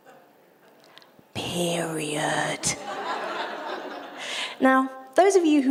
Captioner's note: audience laughter